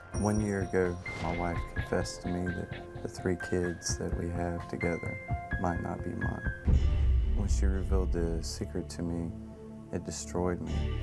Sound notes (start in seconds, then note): none